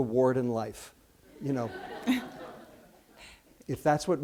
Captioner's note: laughter